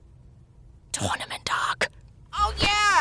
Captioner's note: whisper